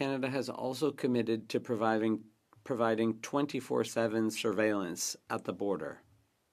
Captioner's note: speaking French